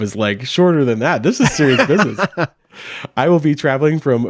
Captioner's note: laughs